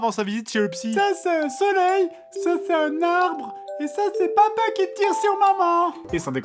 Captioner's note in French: Voix fluette/enfantine